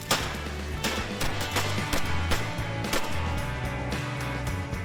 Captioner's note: gunfire